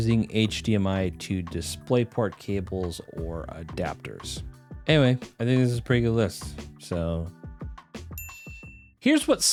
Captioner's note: ding